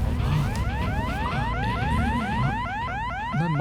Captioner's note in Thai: เสียงกระซิบเรียกเอ็มเมด